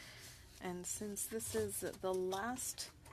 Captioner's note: speaking French